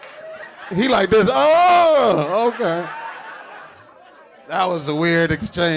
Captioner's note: audience laughing